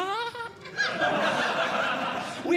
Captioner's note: high-pitched Giggling; audience Laughing